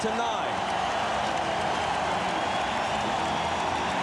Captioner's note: cheering and applause